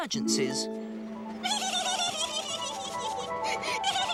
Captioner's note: laughs